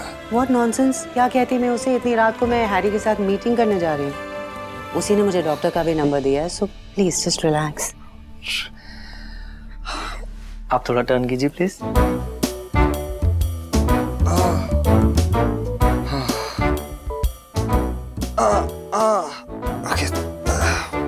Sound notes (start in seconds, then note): 8.6 sighs; 18.3 sighing